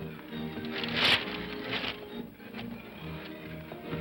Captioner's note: upbeat whimsical music; shades clatter; upbeat whimsical music